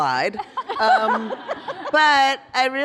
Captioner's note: laughter